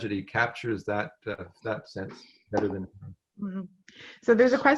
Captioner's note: french